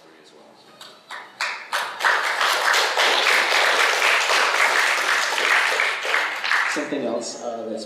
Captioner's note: applause